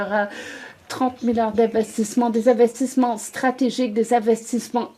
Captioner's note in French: voix de l'interprète